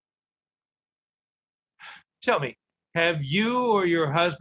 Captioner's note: sighing